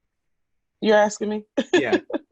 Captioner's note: laughs